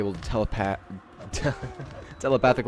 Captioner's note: laughs